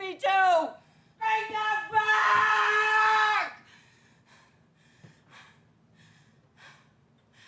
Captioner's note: panting